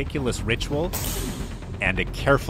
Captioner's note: bungee snaps